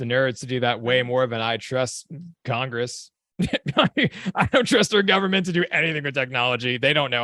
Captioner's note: chuckle